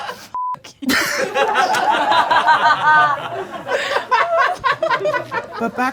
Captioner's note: audience laughing